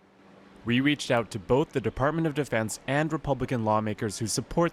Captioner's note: voice-over